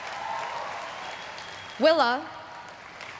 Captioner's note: everyone cheering and applauding